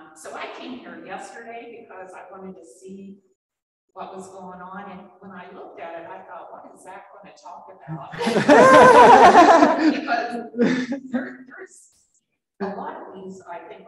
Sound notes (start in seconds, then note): 7.9 laughing